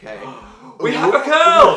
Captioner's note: gasps